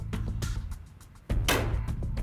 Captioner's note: gunshot